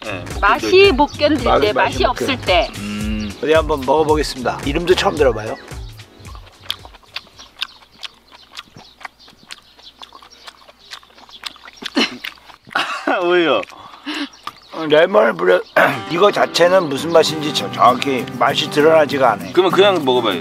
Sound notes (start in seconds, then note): 15.7 coughs